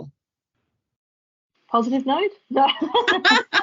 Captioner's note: laughs